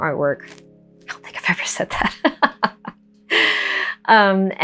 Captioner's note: laughs